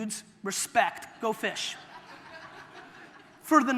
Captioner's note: audience laughter